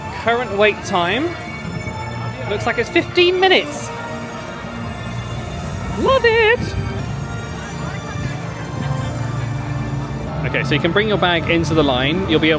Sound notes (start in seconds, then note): 7.6 bright music; 7.6 crowd chattering